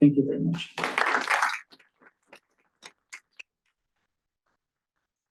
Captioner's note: applause